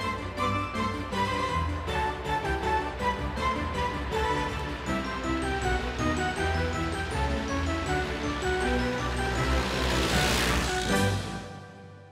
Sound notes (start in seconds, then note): 6.4 car engine roaring